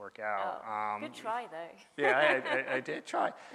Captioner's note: laughs